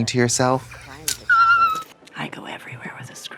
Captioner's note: Katya snickers